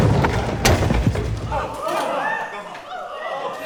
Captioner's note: big crash; crowd gasps